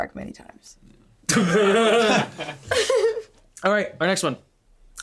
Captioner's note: laughing